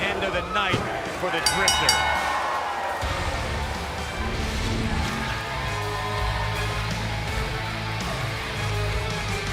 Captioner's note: bell ringing